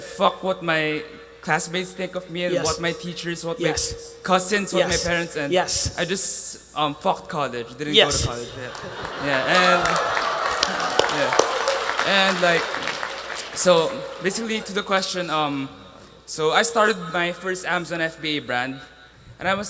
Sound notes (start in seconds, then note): 8.0 attendees applauding